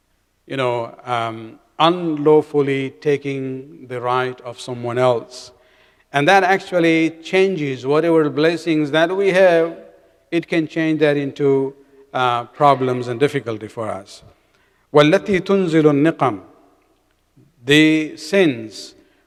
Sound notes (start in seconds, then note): 15.2 arabic